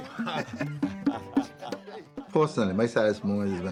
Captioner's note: laughs